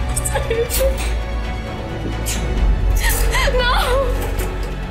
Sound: crying

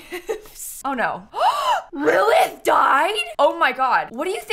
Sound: gasps

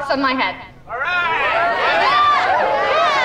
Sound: cheering

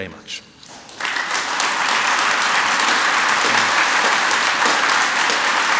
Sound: audience applauds

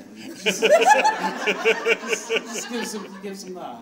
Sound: audience laughs

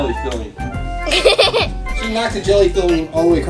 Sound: giggles

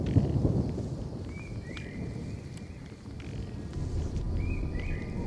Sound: thunder

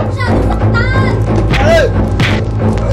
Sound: Benny groans

